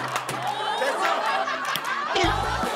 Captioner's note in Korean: 피식